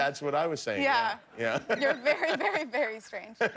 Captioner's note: laughter